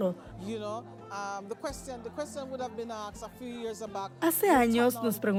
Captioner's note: Hablando idioma extranjero